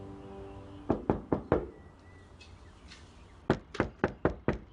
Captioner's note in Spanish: Toques en la puerta